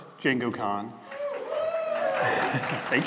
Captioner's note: applause